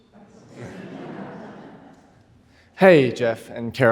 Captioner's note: audience laughing